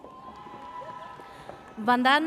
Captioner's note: audience cheers